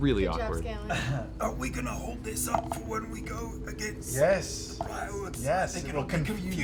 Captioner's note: hoarse